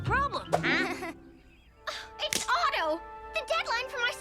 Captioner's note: Lizbeth laughs nervously; gasp